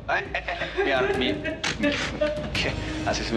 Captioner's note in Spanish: Sollozos de Elisa